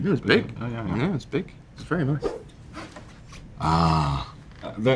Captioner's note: slide swipe